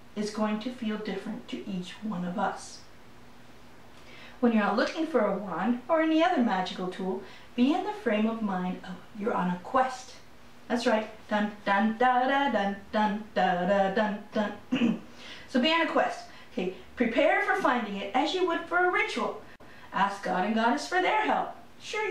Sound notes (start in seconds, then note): 11.6 hums theme; 14.7 clears throat